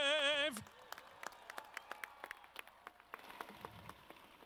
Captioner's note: audience claps